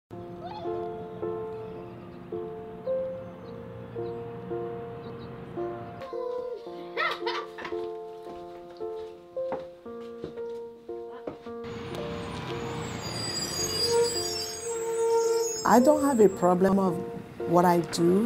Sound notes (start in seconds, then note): 6.0 laugh